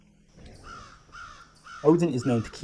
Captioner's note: crows voicing various unsavoury opinions